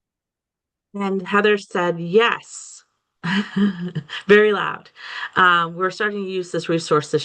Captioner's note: chuckles